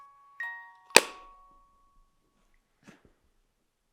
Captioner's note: lid thuds